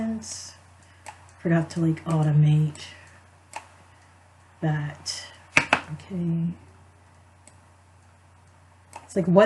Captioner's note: clicks